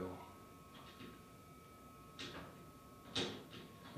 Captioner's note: object tapping randomly